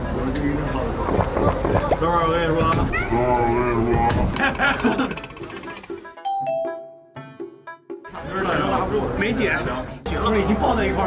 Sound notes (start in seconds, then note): 4.3 hahahaha